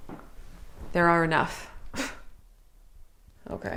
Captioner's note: scoffs